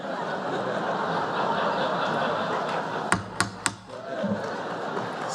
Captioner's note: laughter